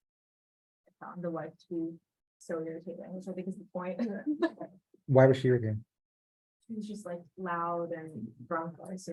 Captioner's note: laughing